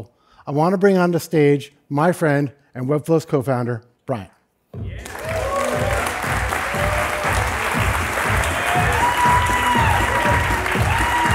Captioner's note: applause